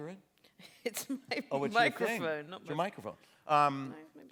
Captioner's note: laughter; laughing